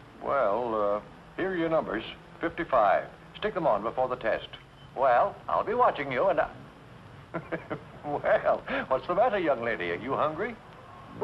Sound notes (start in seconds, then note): 7.3 laughs